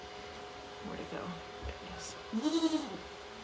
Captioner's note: Maybel bleating